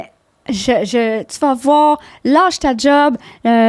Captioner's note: in french